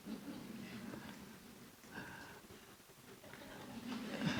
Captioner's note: audience chuckling